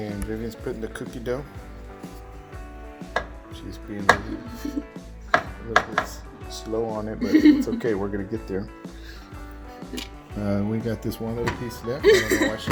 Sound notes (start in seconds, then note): 7.2 laughs; 12.0 laughs